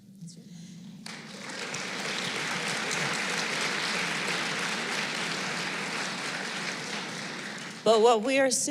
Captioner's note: applause